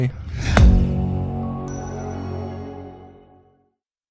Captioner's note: whooshing, gentle chimes